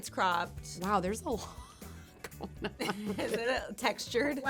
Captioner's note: laughing